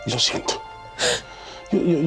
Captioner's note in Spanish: sollozos